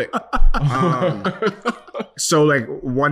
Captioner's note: laughing